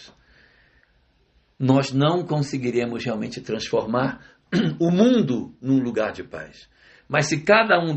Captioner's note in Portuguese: limpando a garganta